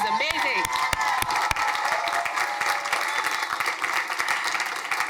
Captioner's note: crowd applauding